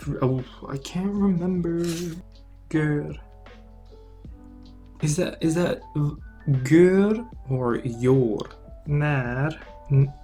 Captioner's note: Turkish accent; Swedish accent